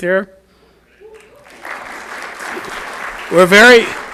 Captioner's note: audience applauds